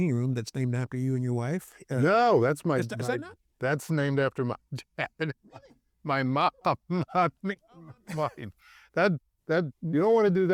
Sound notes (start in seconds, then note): 4.7 laughs